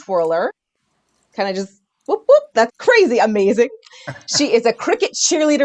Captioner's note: cheers